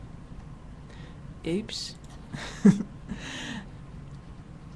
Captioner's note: chuckle